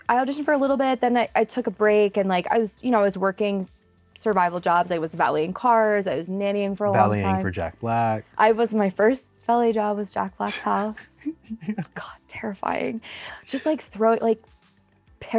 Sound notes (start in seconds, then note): 10.4 laughs